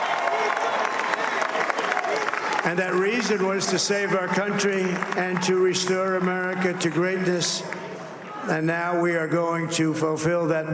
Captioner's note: cheers and applause